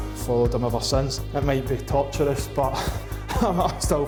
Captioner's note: chuckles